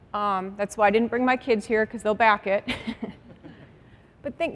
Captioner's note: laughter